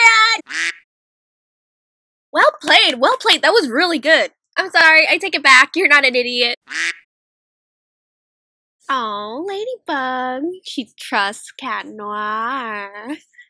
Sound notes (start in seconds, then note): 0.4 quack; 2.1 claps; 6.6 quack